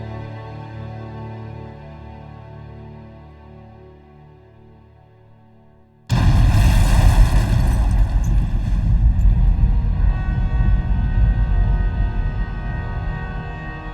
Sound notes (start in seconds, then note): 6.1 loud explosion; 6.1 glass breaking; 11.2 ominous music